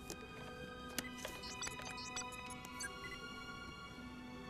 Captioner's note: beeping